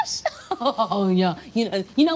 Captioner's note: laughing